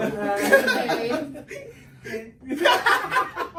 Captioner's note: everyone laughs